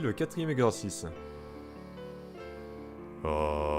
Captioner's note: nasal Inhale